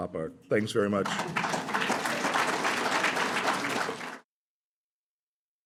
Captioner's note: applause